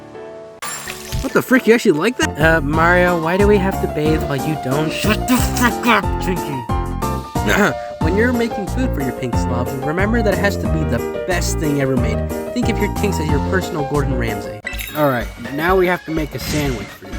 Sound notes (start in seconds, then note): 7.4 clears Throat